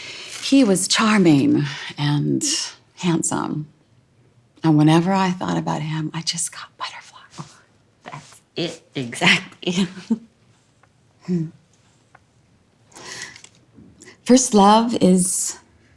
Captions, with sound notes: He was charming, and handsome, and whenever I thought about him, I just got butterflies. Oh, that's it exactly. [giggles] [hmm] First love is...